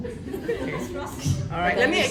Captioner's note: laughter